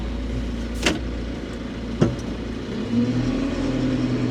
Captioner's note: engine humming continues